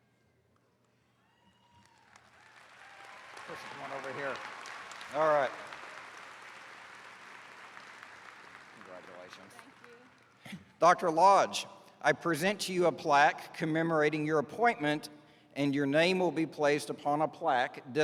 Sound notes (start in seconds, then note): 1.2 attendees cheering; 6.0 attendees clapping